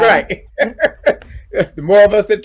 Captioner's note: laughing